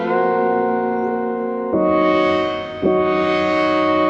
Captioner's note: phone chimes